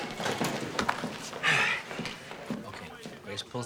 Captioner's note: sighs